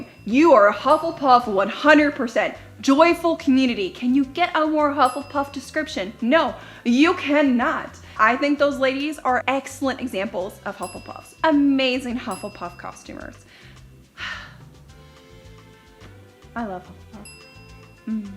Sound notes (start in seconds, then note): 5.0 dings; 10.8 dings; 13.4 dings; 14.2 sighs; 17.2 dings